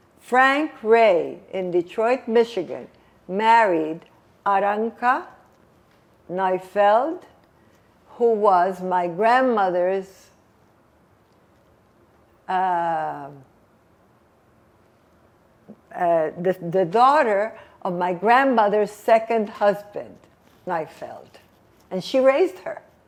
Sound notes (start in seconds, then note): 10.3 pauses 6 seconds